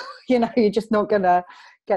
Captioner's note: laughs